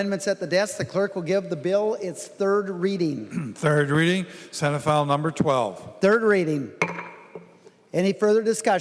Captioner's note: gavel